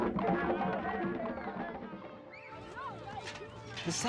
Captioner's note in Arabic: موسيقى هادئة; ثرثرة الأطفال